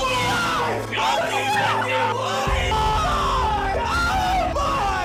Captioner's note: screams